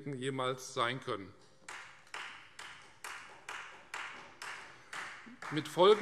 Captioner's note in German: Beifall Freie Demokraten